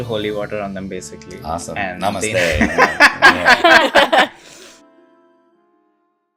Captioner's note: laughter